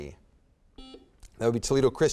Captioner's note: buzzer beeps